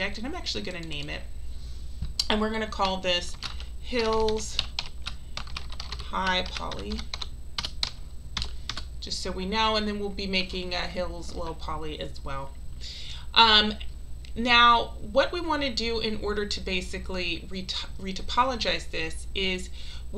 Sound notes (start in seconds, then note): 5.4 keyboard clicking